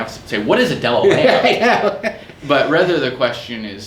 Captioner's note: laughs